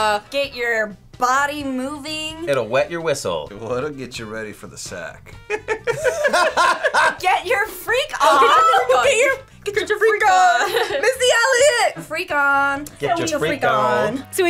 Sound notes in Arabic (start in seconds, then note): 5.4 كلاهما يضحك; 10.7 يضحك